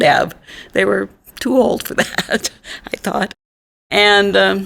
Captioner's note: laughs